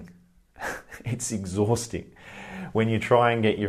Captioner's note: chuckles